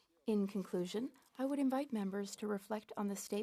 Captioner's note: speaking French